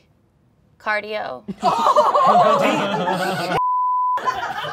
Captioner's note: all laughing